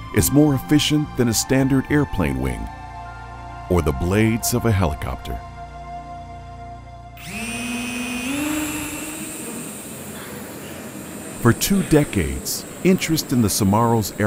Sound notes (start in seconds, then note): 7.2 toy whirring